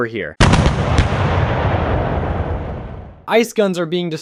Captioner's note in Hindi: तोपखाने की बमबारी।